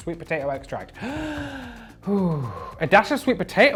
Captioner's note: breathes heavily